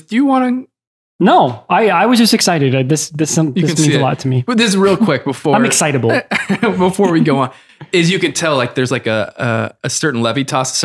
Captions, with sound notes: Do you want to? - No, I was just excited. This means a lot to me. - You can see it. Put this real quick before- - I'm excitable. - (laughs) Before we go on, is you can tell like, there's like a certain levitas,